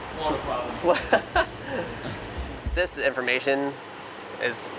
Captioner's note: laughter